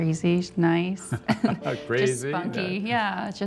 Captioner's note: chuckles